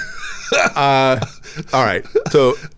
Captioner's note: laughs